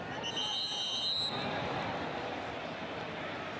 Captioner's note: whistle